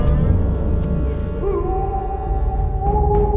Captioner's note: howling